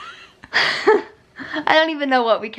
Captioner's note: laughs